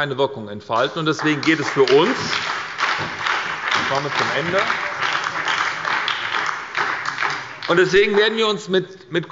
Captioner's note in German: Beifall bei der SPD